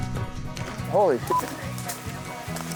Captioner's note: beeps